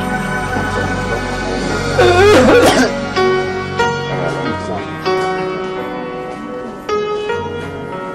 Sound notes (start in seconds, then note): 2.0 man coughing aggressively